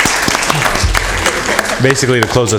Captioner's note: applause